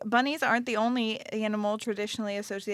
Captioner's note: none